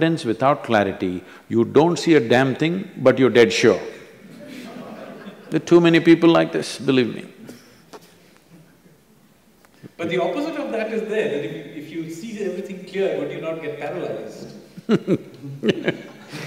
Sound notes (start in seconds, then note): 4.3 laughter; 9.0 laughs; 14.7 both laugh